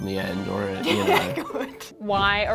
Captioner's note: laughs